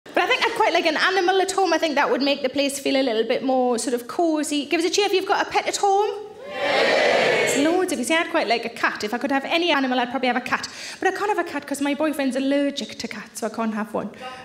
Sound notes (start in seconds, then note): 6.4 audience cheering